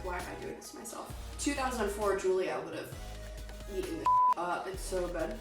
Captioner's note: beep